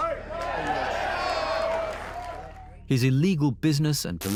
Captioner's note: audience cheers and applauds